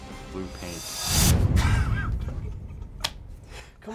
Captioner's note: laughing